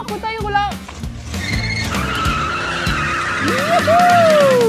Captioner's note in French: Bruit de pneu qui crisse